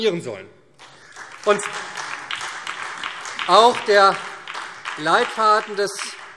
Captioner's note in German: Beifall SPD und Freie Demokraten